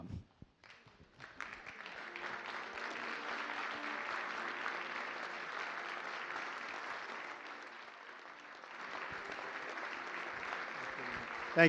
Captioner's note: applause